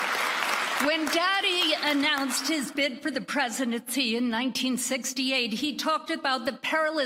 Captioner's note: applause